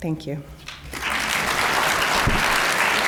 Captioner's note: applause